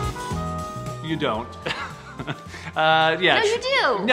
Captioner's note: light music; chuckles